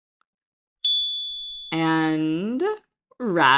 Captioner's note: chime